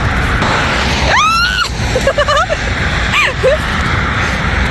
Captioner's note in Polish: śmiech; krzyk